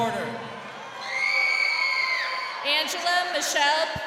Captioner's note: crowd cheering